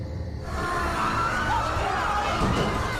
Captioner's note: snarls; screams